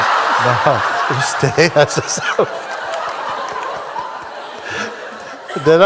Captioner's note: Lachen